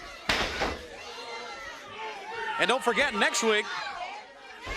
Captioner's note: crowd chatter